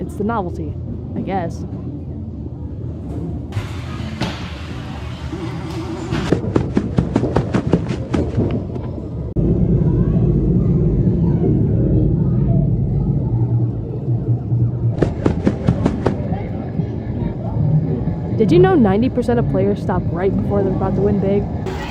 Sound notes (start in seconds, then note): 6.2 running footsteps; 14.9 running footsteps